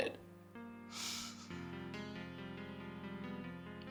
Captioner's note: sniffs